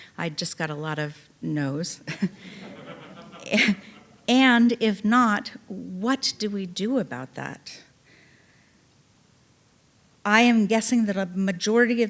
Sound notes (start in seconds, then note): 2.1 chuckling; 2.3 audience laughing